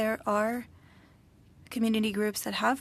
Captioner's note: speaking french